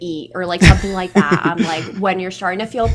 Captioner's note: laughs